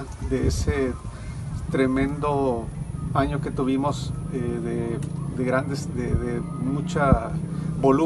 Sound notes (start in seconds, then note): 2.2 speaking Spanish